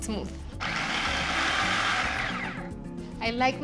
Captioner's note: whirring